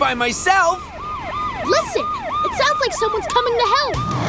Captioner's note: sirens